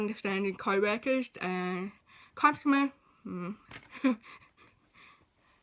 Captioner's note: chuckles